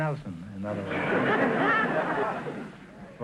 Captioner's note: audience laughter